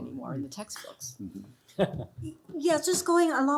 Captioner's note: chuckling